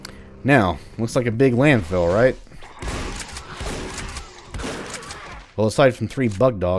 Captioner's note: riff plays; shotgun blasting